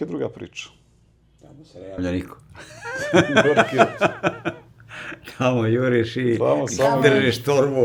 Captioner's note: laughter